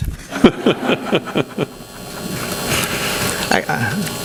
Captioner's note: laughter